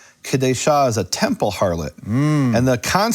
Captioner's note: speaks in foreign language